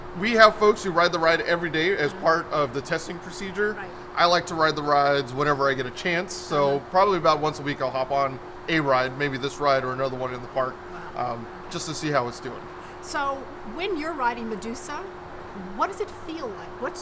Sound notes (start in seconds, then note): none